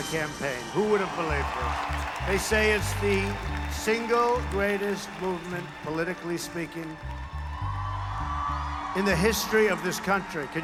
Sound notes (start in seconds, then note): 4.9 continued crowd cheering